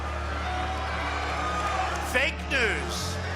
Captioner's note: crowd booing